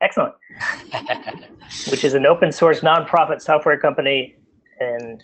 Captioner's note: laughs